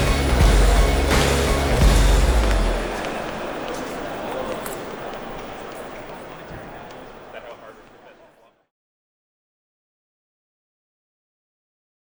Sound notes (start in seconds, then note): 2.1 fading footsteps